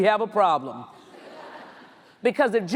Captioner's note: audience laughs